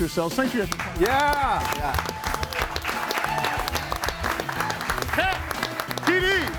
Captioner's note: group applauds; group cheers